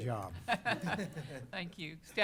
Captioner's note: laughter